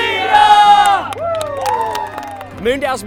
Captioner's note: cheering